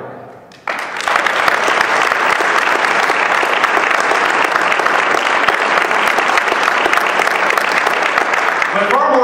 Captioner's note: ovation